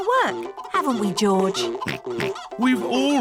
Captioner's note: oinks